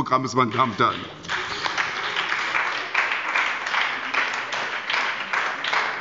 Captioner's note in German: Beifall bei der SPD